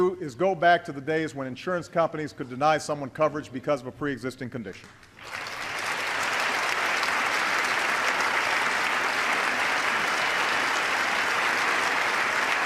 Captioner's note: applause